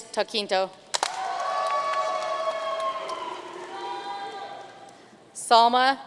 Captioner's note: audience cheering and applauding